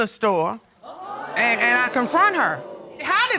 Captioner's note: audience exclaiming